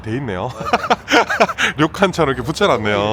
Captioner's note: chuckles